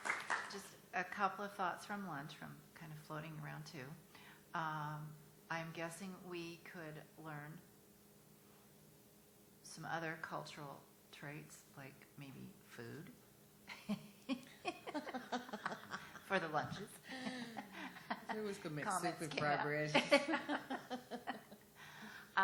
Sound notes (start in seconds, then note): 13.7 laughter; 19.9 chuckling